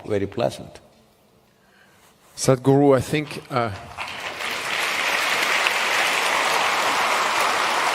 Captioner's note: applause